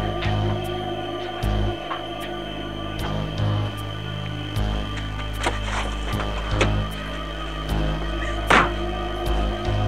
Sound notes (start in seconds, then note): 0.2 tense music; 8.4 door slam